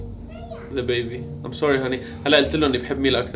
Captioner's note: speaks in English